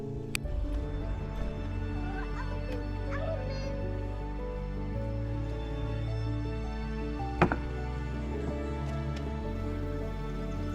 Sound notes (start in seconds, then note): 1.9 soft music; 3.0 child yelling